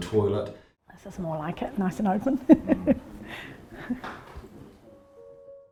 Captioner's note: chuckles; sad piano music